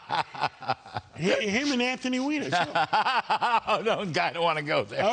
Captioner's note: laughter